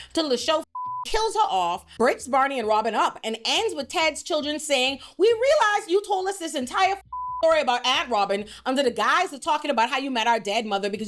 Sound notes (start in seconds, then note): 7.0 beep